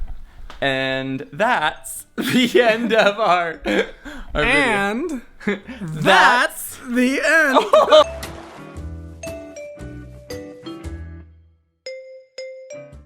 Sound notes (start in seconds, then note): 7.8 laughs; 8.6 bouncy music